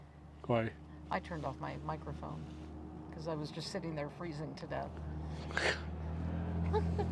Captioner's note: laughter